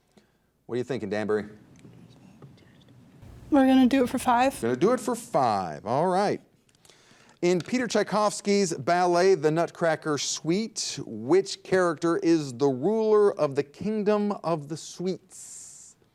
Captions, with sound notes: What are you thinking Danbury? (group chatters) - We're gonna do it for five. - Gonna do it for five. All right. In Peter Tchaikovsky's ballet, "The Nutcracker Suite," which character is the ruler of the Kingdom of the Sweets?